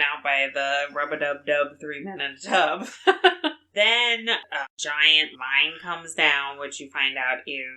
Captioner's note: laughs